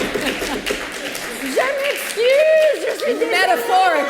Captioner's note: speaking french